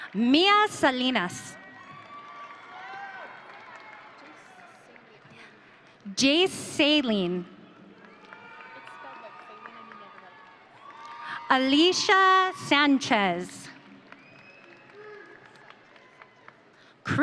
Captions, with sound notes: Mea Salinas. (audience cheering) Jace Saline. (audience cheering) Alicia Sanchez. (audience applauding)